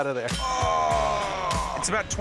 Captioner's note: groan